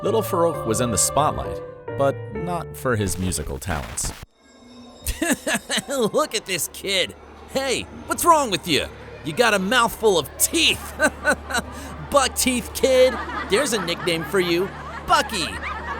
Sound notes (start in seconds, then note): 5.0 laughing; 12.9 kids laughing